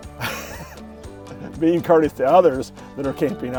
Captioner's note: laughs